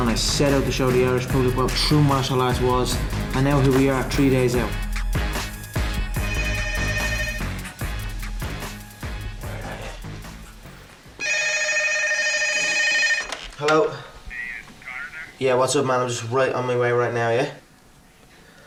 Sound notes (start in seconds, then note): 6.1 phone ringing